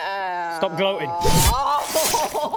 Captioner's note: stab